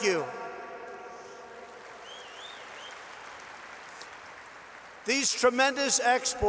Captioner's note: applause